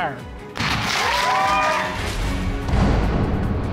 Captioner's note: audience cheering and applauding